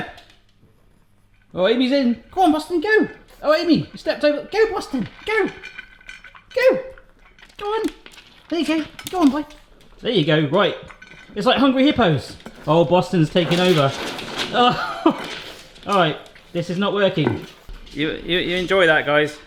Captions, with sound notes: Go! Oy, go on Boston, go! Oh Amy, you stepped over, go Boston, go! Go! Go on, there you go, go on boy! There you go, right. It's like Hungry Hippos! Oh Boston's taken over. (laughs) All right this is not working. You enjoy that guys.